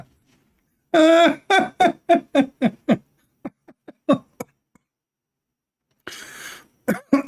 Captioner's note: Ketawa